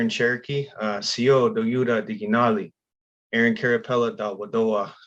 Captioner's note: speaking Cherokee